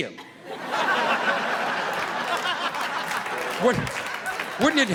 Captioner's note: audience laughing